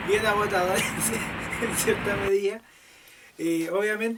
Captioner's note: laughs